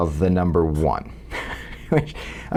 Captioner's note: laugh